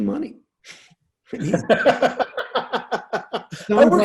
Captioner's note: laughing